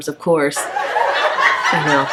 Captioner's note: audience laughing